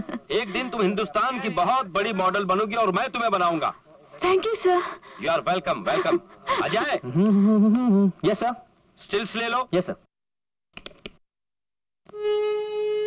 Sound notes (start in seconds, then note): 7.1 humming